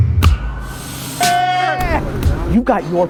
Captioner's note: men yelling